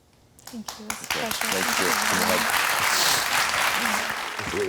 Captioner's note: audience applauding